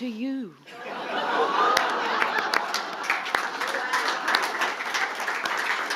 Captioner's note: audience laughing and applauding